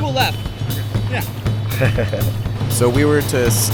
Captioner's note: laughs nervously